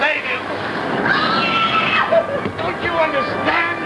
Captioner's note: screaming